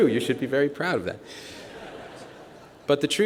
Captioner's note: laughter